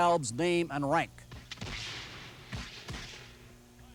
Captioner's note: rifles firing